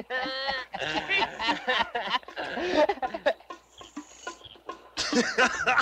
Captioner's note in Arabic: يضحك; يضحك رجال الشرطة; موسيقى مشوقة